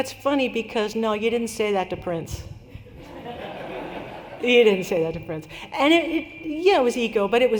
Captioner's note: laughter